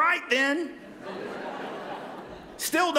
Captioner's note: laughter